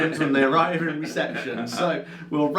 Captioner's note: laughs